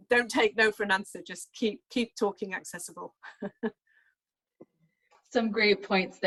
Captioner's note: chuckles